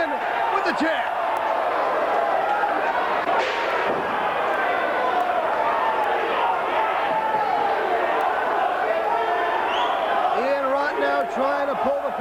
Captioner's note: crowd chatter